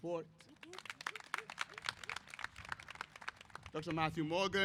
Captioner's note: applause